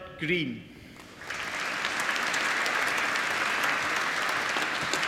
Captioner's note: applause